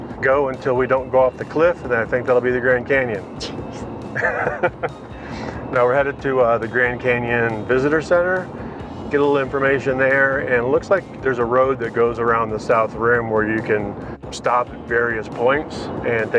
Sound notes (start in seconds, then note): 4.1 laughing